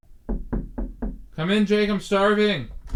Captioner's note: Jake knocking on door